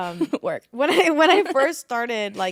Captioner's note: laughing